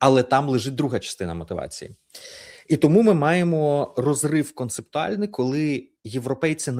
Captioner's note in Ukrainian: сопіння